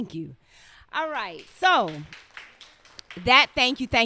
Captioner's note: crowd clapping